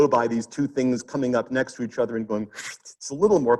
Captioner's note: instructor whooshes